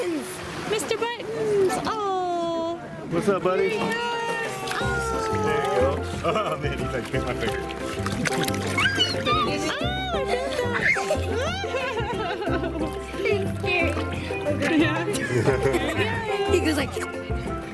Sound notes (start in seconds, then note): 0.2 voiceover; 5.7 voices all talking excitedly; 7.5 voiceover; 12.3 laughing excitedly; 16.2 voiceover